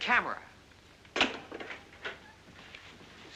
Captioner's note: phone slams down